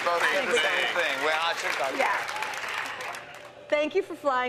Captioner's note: cheers and applause